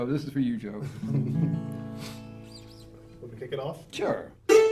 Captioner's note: chuckles; guitar notes ring